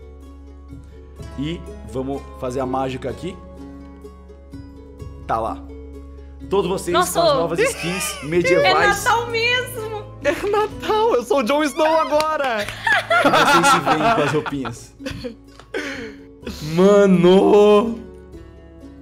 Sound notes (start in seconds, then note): 12.8 laughs; 15.6 chuckles